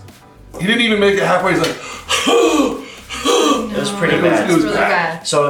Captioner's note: breathing heavy